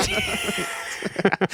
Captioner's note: laughing